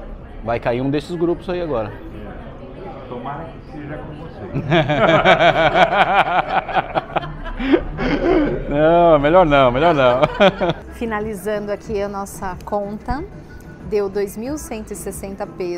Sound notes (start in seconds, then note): 4.6 laughs